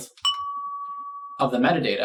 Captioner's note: ding!